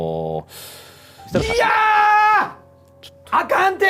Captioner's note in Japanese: 叫び声